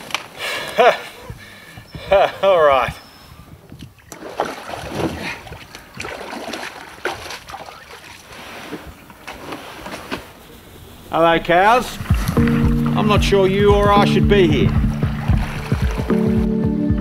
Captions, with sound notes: [laughing] All right! [splashing] Hello cows! I'm not sure you, or I, should be here.